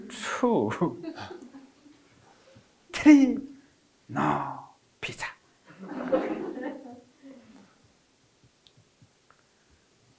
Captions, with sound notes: Two. Three, no pizza. (audience chuckling)